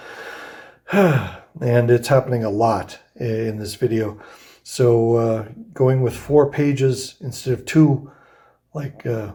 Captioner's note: sighs